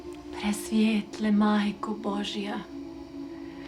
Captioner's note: non-english speech